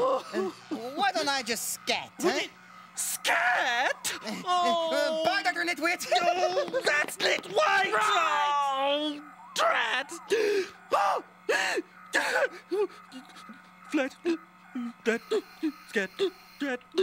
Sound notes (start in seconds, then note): 4.0 groans; 12.0 gasping and shrieking